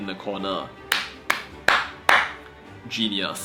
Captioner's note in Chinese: 鼓掌